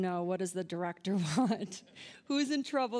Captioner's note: audience laughing